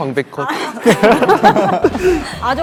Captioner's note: awkward laugh